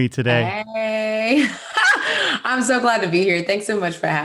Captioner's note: laughing